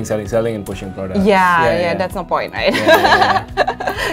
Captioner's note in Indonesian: keduanya tertawa